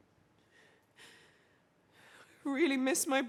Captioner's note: she sighs